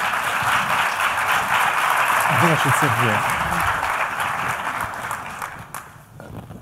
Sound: applause

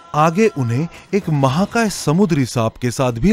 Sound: none

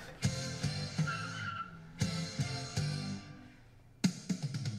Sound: tires squeal

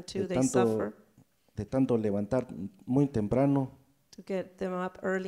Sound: speaking in foreign language

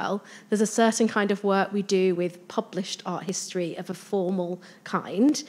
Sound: none

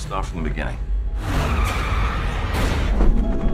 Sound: tyres screech, gun fires; sombre music

